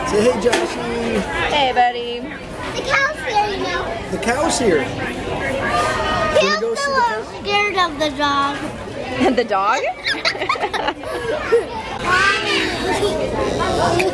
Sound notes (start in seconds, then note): 6.3 child yells; 9.8 laughs